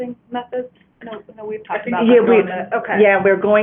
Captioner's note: overlapping chatter